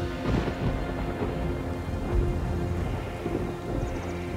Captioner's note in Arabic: هطول المطر